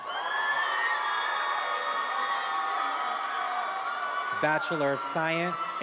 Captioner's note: attendees applauding and cheering